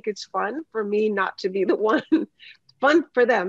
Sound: laughs

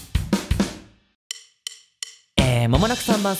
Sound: natural voice

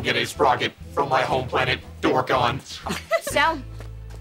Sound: laughing

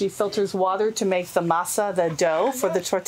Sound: foreign language

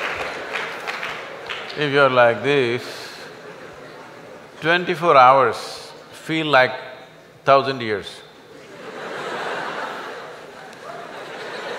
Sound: laughter\Applause

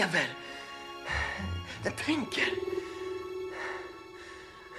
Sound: ufo whirs

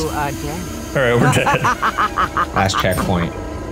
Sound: Bierce laughing

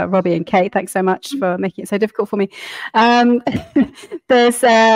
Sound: laughing

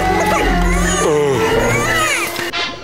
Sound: groaning, Junior crying

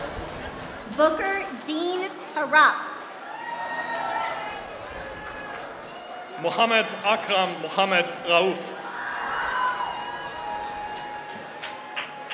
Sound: applause

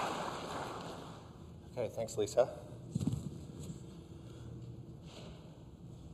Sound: applause

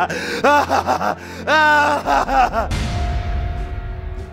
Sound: maniacal laugh

